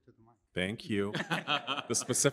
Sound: laughter

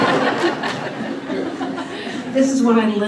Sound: laughter

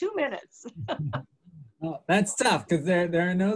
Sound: laughs

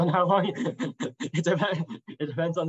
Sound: chuckles

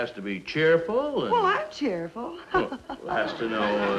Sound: giggles

